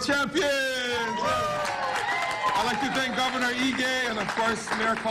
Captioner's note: applause